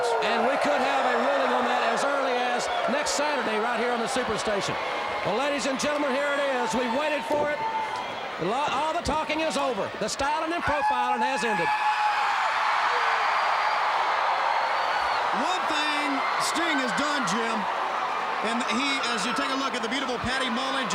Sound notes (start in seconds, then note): 12.0 Sting howling; 12.0 crowd cheering